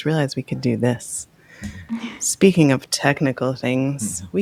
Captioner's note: adjusts microphone